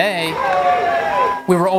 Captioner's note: cheering